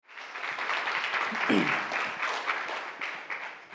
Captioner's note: audience applauding